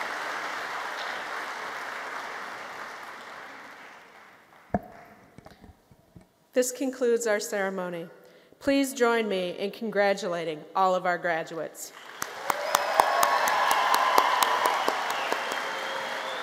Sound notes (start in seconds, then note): 4.4 applause